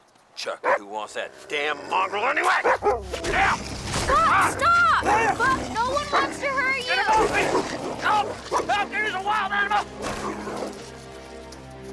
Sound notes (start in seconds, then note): 2.8 Buck barking and growling